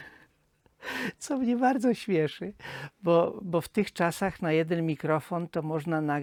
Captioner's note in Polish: wciągnięcie powietrza